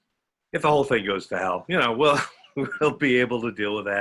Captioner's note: laughs